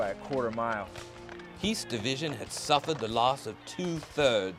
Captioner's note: voiceover